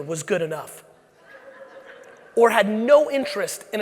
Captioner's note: audience laughing